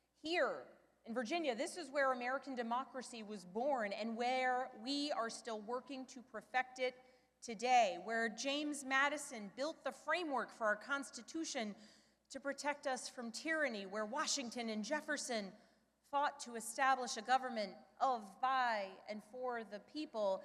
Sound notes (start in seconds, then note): none